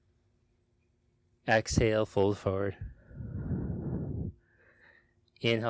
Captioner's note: exhales deeply